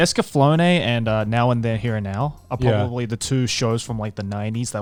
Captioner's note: laughing